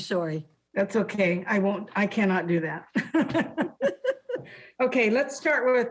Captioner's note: laughs